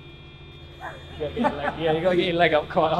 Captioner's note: laugh